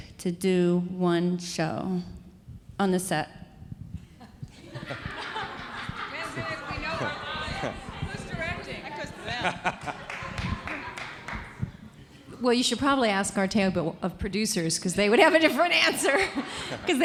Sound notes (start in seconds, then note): 4.4 audience laughing; 6.4 indistinct conversation